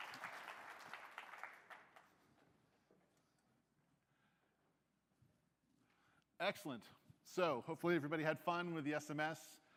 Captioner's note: applause